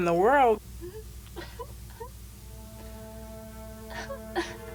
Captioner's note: crying